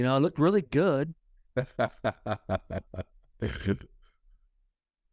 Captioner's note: chuckles